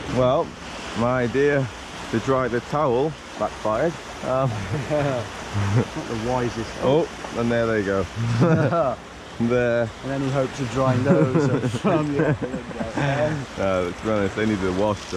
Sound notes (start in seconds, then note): 4.4 laughing; 8.2 both laughing